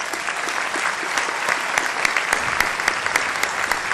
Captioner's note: applause